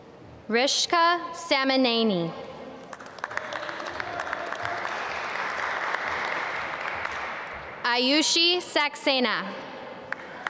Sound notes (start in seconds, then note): 2.8 applause